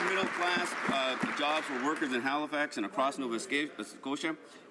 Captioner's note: some Applause